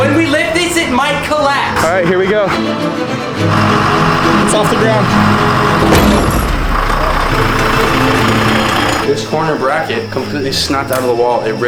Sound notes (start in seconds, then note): 3.1 tense music; 5.7 structure crashes to ground